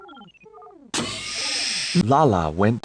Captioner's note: door Open